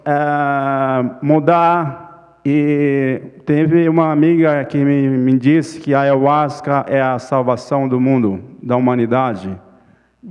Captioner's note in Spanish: Ponente habla en portugués